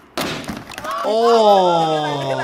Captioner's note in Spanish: golpes de patineta; los niños gritan